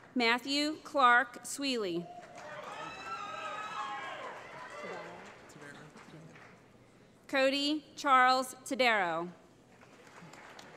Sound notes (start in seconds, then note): 2.0 cheering; 9.7 applause